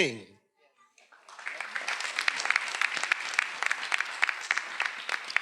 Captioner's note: everyone applauding